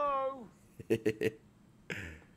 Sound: laugh

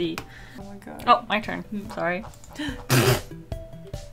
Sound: pfff

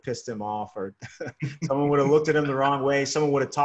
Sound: laughs

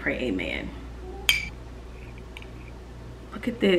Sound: fork clinking

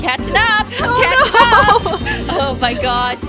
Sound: giggles

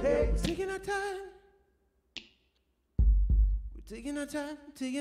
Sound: snap, boom, boom

